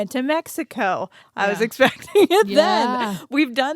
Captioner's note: laughs